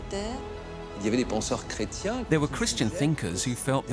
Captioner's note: speaking French